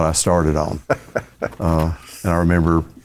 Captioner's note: laughing